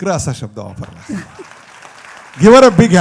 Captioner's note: applause